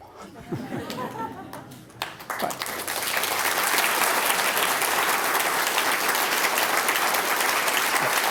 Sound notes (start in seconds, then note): 1.8 applause